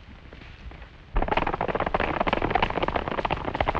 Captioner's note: hooves clattering